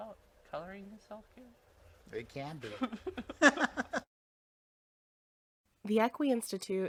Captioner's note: both let out a chuckle